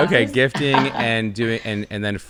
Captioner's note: laughing